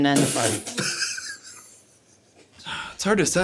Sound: everyone laughs

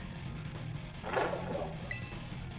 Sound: laughs

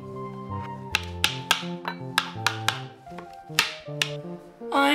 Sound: chopping

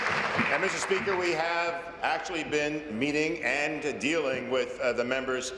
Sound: applause

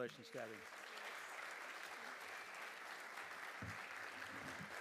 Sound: audience applauding

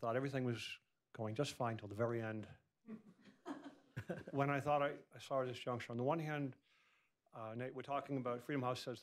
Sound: laughter

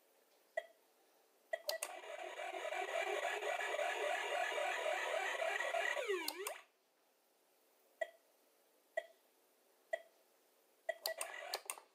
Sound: game sounds / scanning sounds

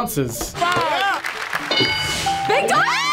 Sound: bell rings; both scream

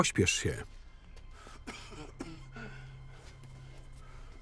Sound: coughing

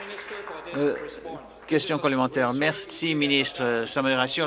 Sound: applause

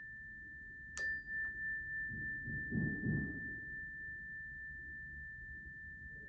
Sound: calming chime sound

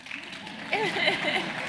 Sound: applause; laugh

